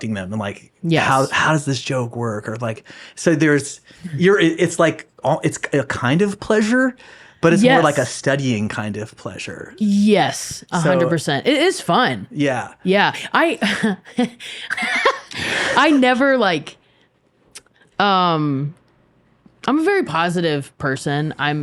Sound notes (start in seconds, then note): 14.7 laughs